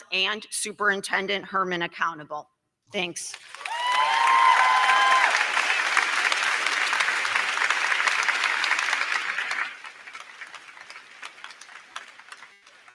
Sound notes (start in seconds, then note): 3.3 crowd clapping; 3.4 crowd cheering